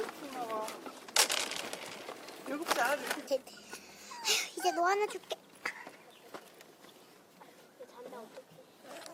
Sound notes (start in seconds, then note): 5.2 speaks Korean